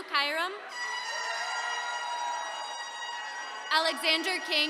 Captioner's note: attendees cheering